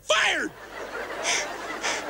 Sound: audience laughter

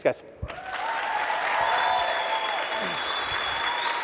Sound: audience applauds

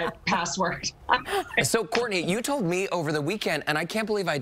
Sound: laughter

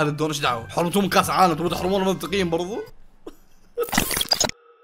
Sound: laughs

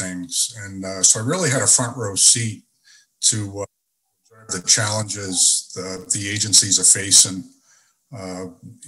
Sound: audio skips

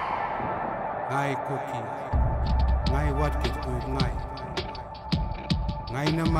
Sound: man speaks in language

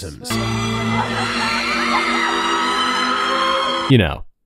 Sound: audience screaming

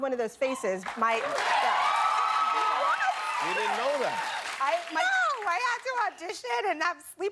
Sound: cheers and applause

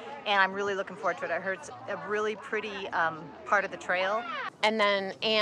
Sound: none

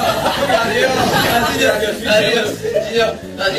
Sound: laughing

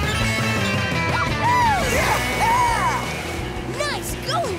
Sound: cheering

